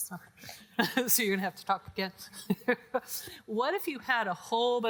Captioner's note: laughs